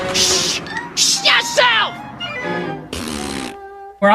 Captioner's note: shushing; blows raspberry